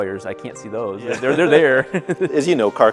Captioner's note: laughs